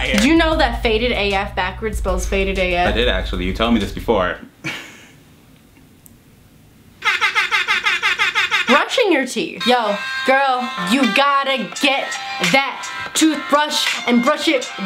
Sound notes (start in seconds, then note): 7.0 air horns